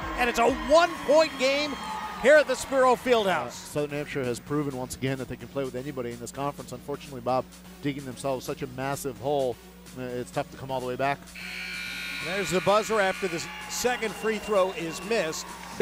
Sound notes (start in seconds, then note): 11.3 buzzer